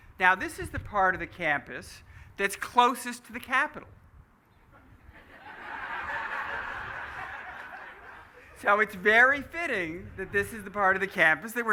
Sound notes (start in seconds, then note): 4.7 laughing